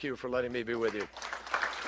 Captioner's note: applause